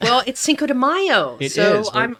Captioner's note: laughs